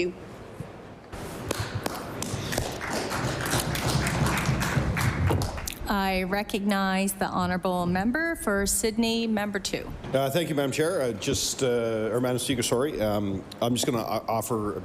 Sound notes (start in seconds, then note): 3.8 applause